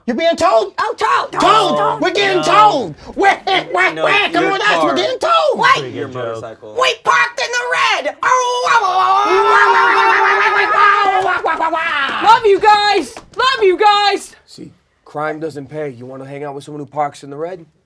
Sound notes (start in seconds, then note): 9.4 Wario and Waluigi shouting